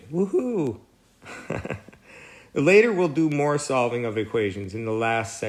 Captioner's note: laugh